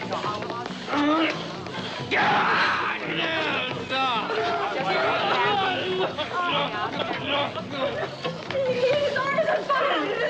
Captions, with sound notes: Oh, Gaaaaaaaa. Ahhhhh. [Sam yelling incoherently] - His arm is on fire.